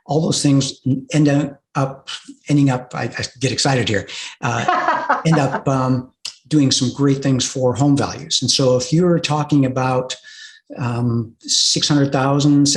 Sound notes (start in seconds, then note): 4.5 laughs